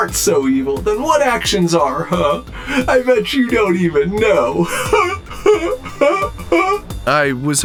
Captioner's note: robotic laugh